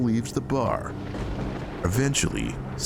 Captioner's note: thunder booming